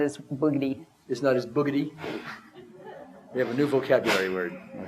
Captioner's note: audience laughter